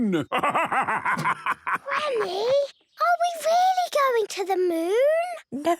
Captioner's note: whispers